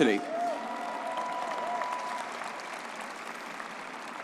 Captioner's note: crowd cheering